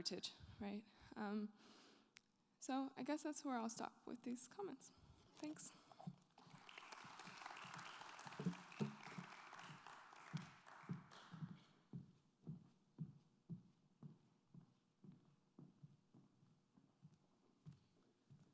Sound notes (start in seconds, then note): 6.3 applause